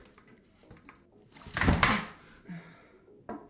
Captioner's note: her body hits the ground with a thud